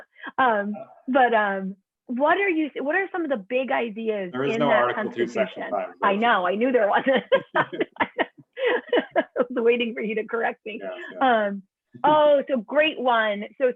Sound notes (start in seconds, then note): 6.9 laughter